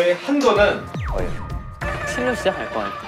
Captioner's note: Pounding